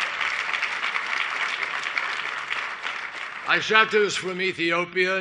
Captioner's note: cheers and applause